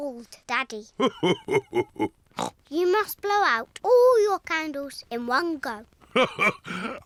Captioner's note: laughs; oinks; laughs